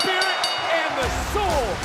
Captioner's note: bell rings